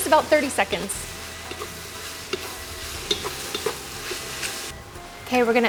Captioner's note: veggies stirring